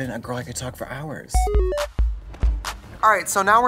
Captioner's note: retro video game sound effects